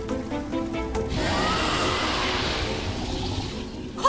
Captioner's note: roar